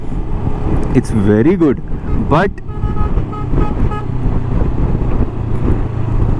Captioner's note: someone honking behind me